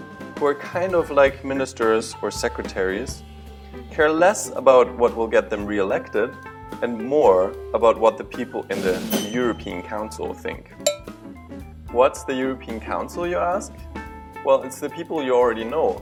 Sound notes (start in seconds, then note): 10.8 ding